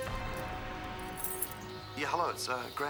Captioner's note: keys jingle